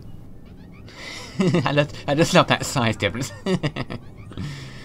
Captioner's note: laughs